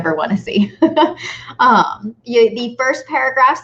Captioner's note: chuckling